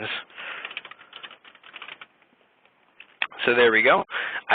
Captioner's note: typing